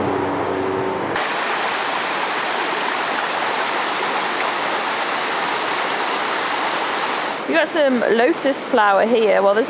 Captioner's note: running water